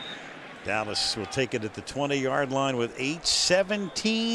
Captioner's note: pa announcement